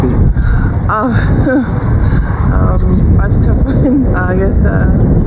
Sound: laughs

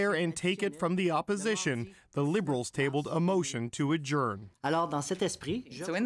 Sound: speaking French

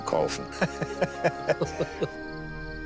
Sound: laughter

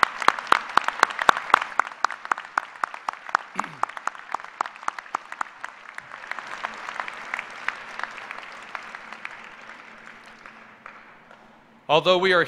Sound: applause

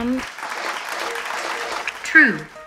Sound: audience applauds

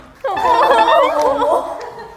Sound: crying

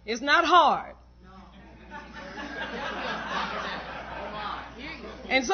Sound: laughter

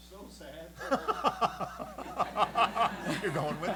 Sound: laughter

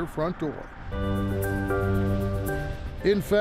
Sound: motor rumbles

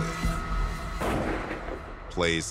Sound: gunshot echoes

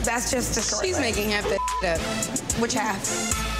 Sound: beep

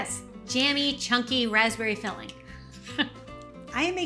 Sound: chuckles

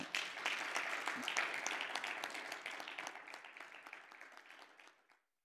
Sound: attendees applauding

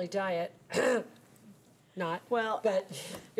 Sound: clearing throat

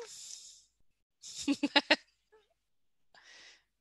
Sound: chuckles

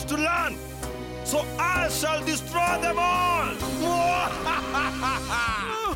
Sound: evil laughter

